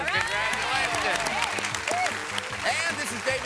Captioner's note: audience applause